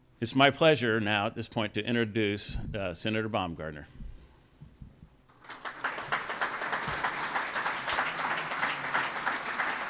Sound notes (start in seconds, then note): 5.3 audience applauds